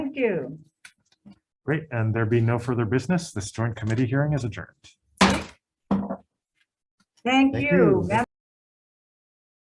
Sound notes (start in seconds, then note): 5.2 gavel bangs